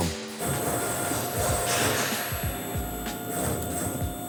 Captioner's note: machine beeps